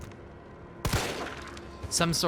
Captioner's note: gun goes kapowie